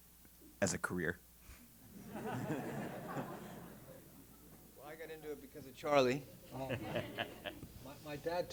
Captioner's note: laugh